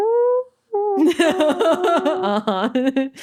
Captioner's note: laughing